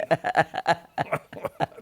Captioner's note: laughter